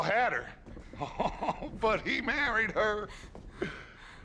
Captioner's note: laughs